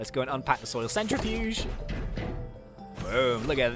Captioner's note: centrifuge banging